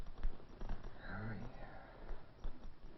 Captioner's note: sighs